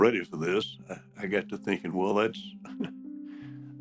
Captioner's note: chuckles